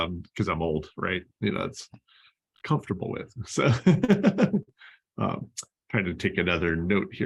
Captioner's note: laughter